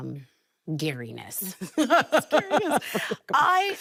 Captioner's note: both laughing